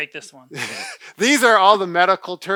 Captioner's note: laughs